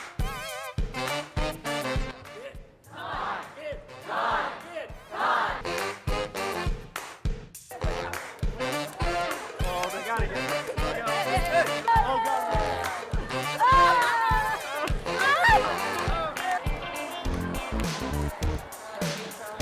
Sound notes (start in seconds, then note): 8.3 people smiling and laughing